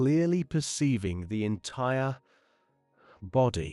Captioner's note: breath